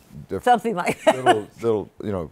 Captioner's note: laughs